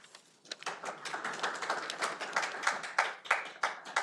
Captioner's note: audience applauding